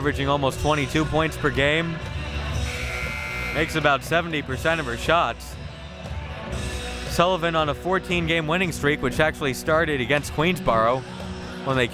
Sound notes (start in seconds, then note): 2.6 buzzer buzzing